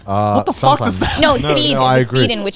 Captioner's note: laughs